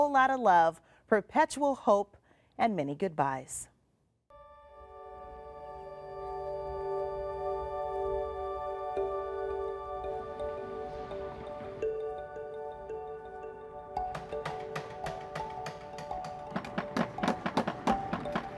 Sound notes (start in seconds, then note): 6.1 calming music; 14.0 hammering